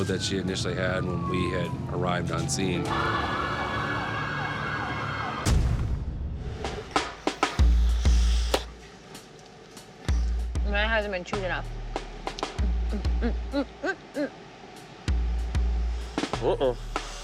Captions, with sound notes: the episode that she initially had when we had arrived on scene. [sirens blaring] [breath fills bubble] [bubble gum pops] Mine hasn't been chewed enough. Mm, mm, mm, mm, mm. Uh-oh.